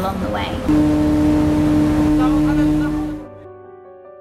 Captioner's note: ferry Horn Blows; soft music